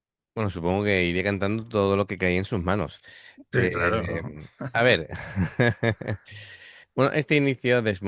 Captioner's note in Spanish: risas